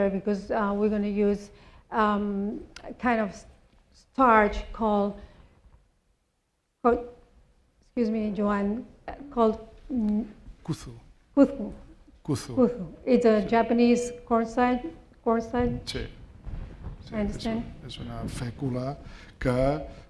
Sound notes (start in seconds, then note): 11.7 non-english; 18.5 speaking spanish